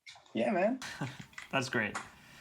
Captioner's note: chuckles